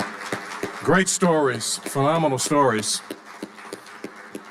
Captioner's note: audience applauding